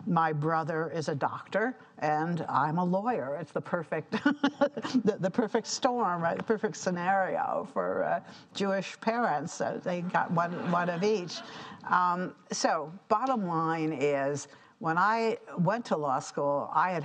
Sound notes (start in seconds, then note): 4.4 laughs; 10.3 audience laughing